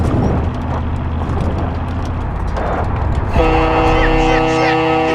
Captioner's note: horn blowing